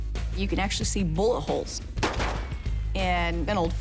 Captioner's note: gun shots